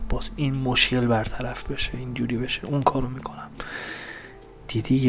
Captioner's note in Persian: صدای بند آمدن نفس